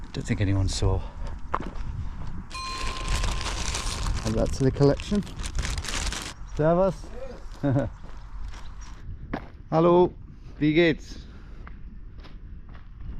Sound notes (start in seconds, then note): 2.6 plastic rustling; 7.5 chuckles